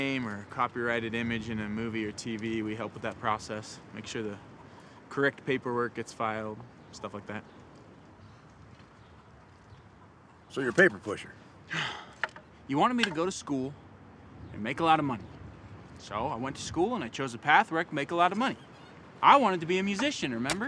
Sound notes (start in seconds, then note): 11.6 sighs